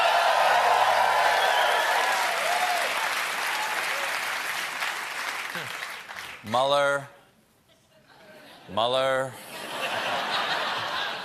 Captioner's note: cheers and applause